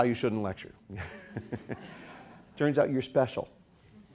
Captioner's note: all chuckling